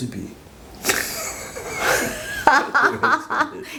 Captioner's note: lol